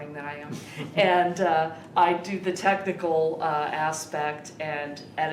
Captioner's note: interviewer laughing